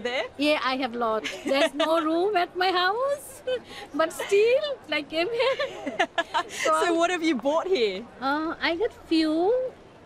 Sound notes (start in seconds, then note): 6.0 laughs